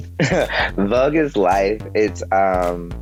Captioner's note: laughs